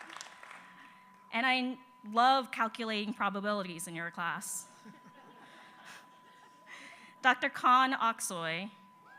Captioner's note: applause